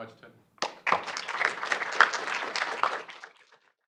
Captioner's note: audience clapping